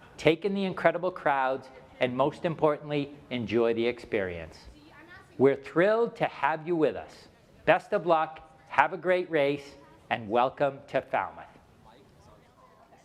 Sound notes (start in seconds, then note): none